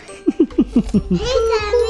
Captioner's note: laughter